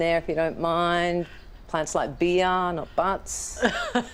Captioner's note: laughs